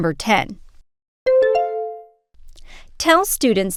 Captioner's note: bell ding